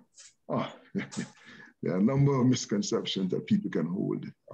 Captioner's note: laughs